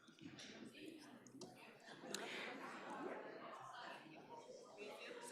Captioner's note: crowd chattering